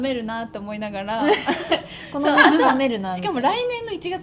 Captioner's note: laughs